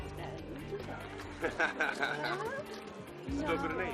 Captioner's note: William laughs